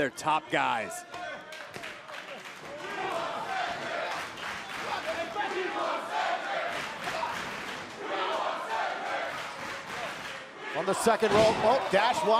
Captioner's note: crowd cheering